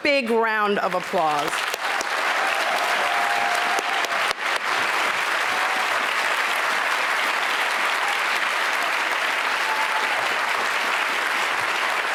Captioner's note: applause